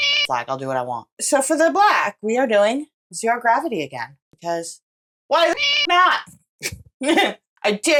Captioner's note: meow; meow